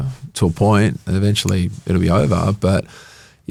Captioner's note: finger snaps